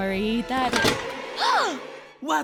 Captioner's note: gasps